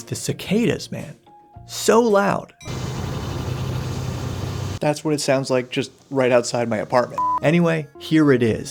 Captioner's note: bug noises